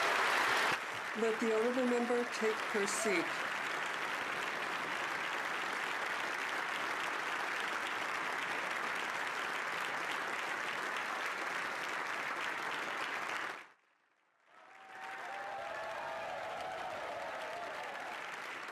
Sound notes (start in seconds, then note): 6.4 applause